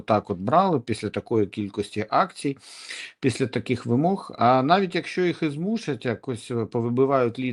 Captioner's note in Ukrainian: сопіння